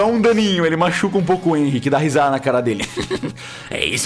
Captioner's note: cackles